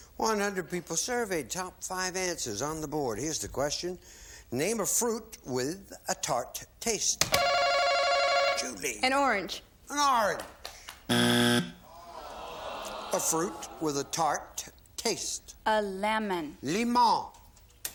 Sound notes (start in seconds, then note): 7.4 bell; 11.1 buzzer